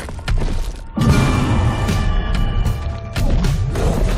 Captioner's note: roaring